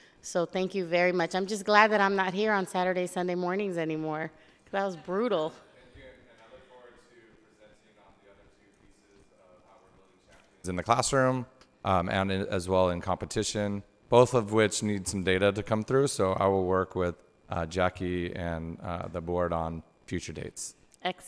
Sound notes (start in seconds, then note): 9.8 squelching